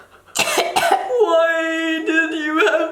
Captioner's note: gagging